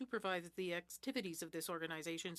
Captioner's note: speaking French